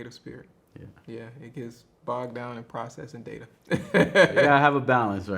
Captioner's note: laughs